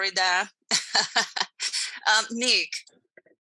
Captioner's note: laughs